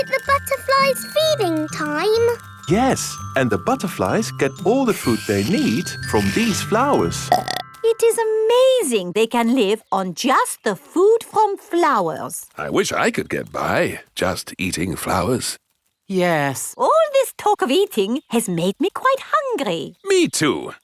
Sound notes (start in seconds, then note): 7.2 burps